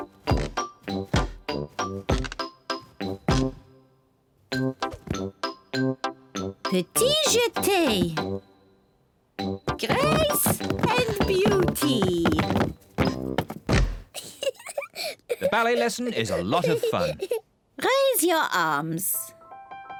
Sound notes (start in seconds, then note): 0.9 feet thud heavily; 9.7 feet thud loudly; 13.7 thuds; 14.1 giggles